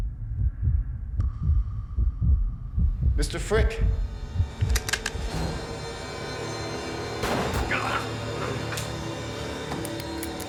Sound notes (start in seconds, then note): 7.2 gunshot